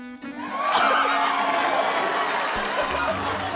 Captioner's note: cheering, applause